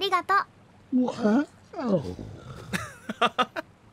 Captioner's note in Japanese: あくび